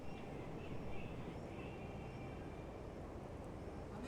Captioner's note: wind rustling